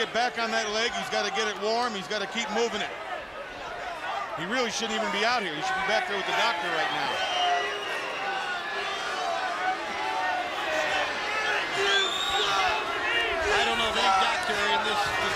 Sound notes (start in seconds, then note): 8.6 crowd chatter